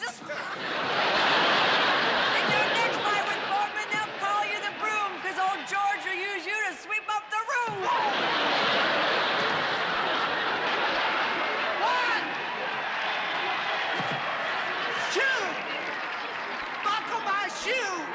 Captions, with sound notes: [ Laughter ] In your next fight with Foreman they'll call you the broom, 'cause old George'll use you to sweep up the room. [ Laughter ] One! Two! Buckle my shoe!